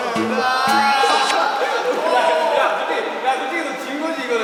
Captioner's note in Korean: 찰싹